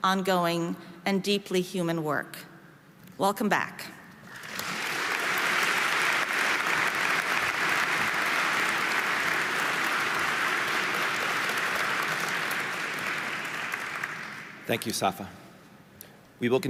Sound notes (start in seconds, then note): 4.3 audience applauding